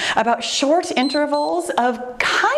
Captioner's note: timer beeps